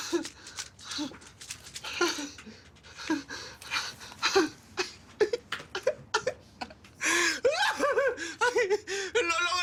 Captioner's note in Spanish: Risa nerviosa